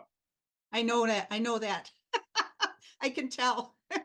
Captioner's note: laughs